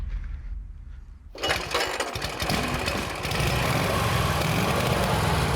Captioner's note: engine starts